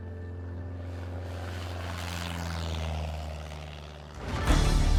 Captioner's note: plane engine roaring